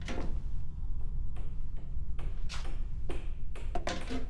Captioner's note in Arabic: يطرق